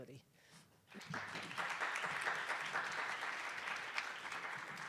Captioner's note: attendees applauding